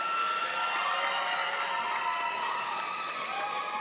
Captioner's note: crowd cheering